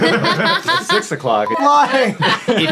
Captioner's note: everyone laughing